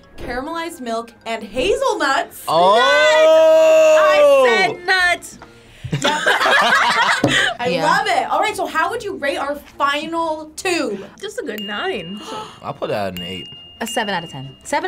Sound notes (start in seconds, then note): 5.8 all laughing; 11.3 bell dinging